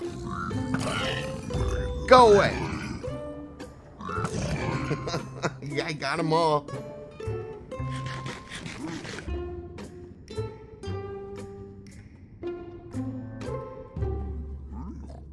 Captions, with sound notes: GO AWAY! (Laughs) yeah I got em all